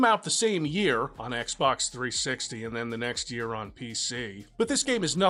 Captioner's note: disgust